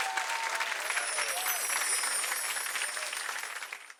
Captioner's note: gently chiming bells